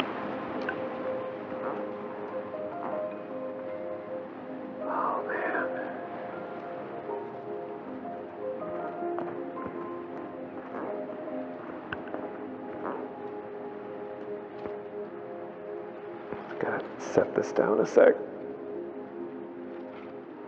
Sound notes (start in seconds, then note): none